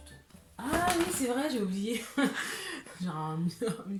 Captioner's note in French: rires